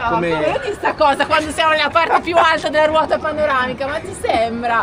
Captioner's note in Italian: risate